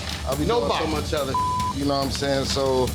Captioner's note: beep